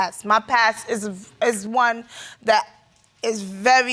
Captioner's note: none